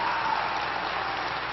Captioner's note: applause